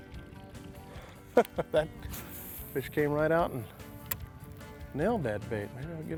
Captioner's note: laughs